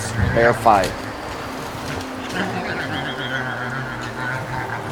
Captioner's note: bear growling